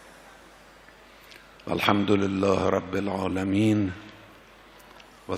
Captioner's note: praying in Arabic